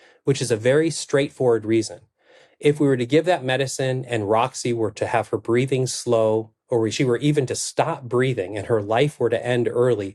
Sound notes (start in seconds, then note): none